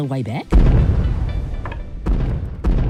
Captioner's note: distant booming